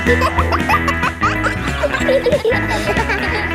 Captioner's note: pop music playing; kids laughing